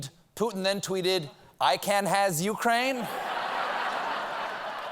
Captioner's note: laughter